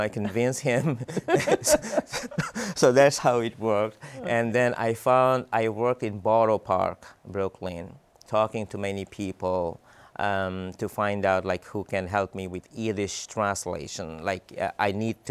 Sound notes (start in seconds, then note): 0.1 laughs